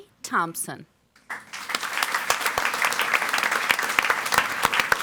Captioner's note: audience applauds